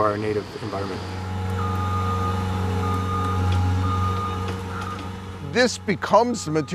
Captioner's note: forklift beeps and whirs